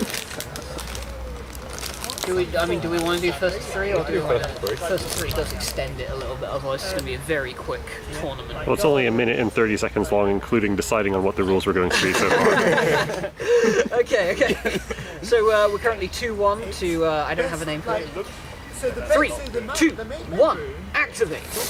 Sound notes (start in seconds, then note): 11.9 laughter; 13.4 crazy big inhalation